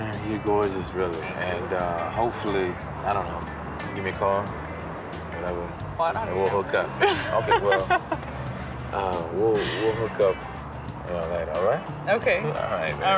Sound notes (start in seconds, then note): 7.0 laughs